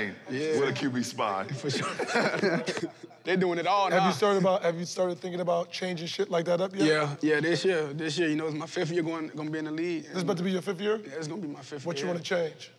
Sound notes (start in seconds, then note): 1.3 laughs